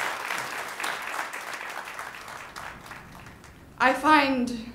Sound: ^applause^

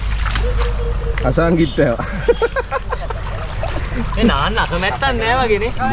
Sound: laughing

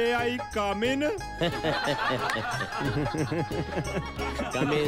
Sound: everyone laugh's

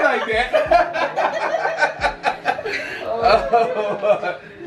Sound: laughing

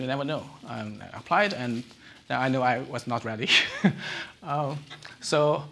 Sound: chuckles

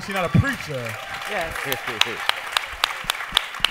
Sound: applause

